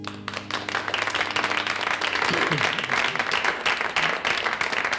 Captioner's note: audience applauds